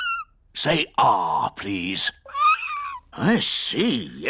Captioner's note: squeaks; squeaking